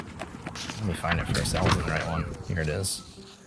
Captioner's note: papers rustling